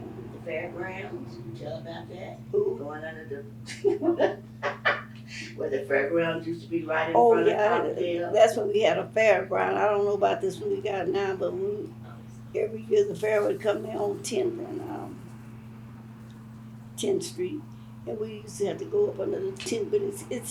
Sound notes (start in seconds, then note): 3.6 laughs